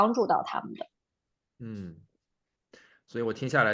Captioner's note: nonverbal grunt as interjection